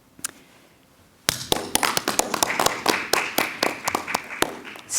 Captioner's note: clapping